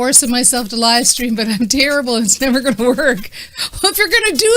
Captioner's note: laughing